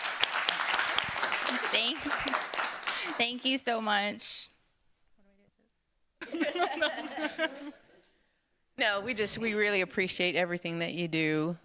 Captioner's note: applause